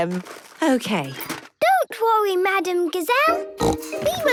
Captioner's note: snorting